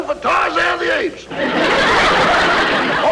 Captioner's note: audience Laughing